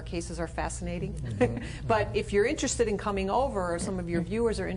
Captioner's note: laughs